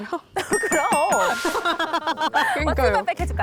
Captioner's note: correct answer sound effect